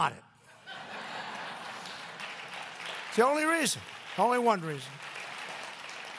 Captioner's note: laughter and applause